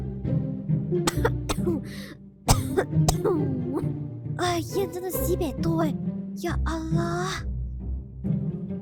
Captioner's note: coughing